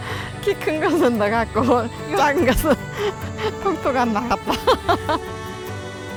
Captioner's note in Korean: 웃음